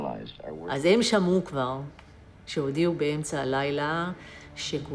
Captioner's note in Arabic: الصوت المنطوق باللغة العبرية